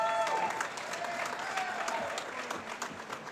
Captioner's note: applause